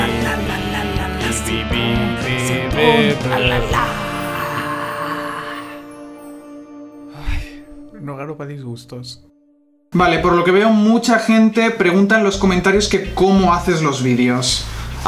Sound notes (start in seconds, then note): 7.1 sigh